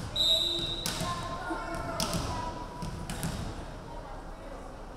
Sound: referee whistling

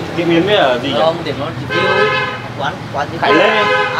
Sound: chatting

